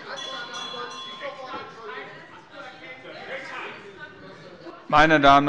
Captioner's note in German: Lebhafte Zurufe - Glockenzeichen des Präsidenten